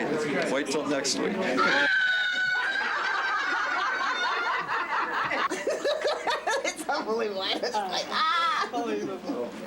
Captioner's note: screaming and laughing